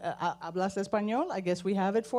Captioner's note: speaking foreign language